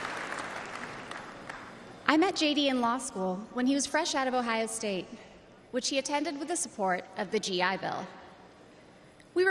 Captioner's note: applause